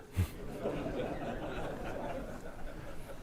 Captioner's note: laughter